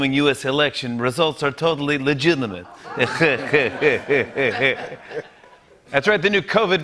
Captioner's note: laughs